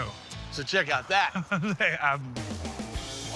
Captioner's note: laughing